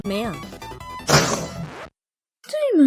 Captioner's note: pshewww